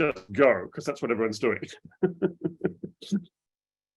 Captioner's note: chuckles